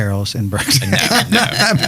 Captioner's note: laughs